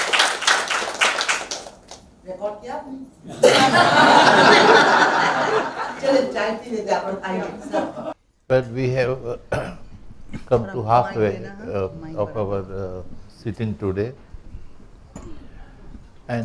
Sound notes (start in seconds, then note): 3.2 laughs